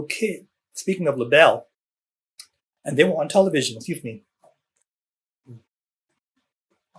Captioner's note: takes drink of water